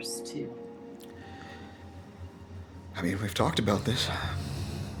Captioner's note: breathes uneasily